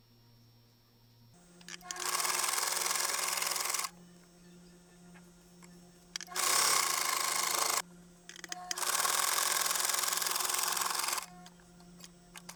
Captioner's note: sewing sound